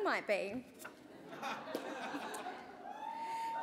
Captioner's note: laughter